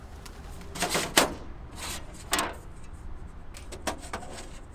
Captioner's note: metal rustling